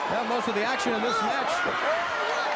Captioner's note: crowd cheering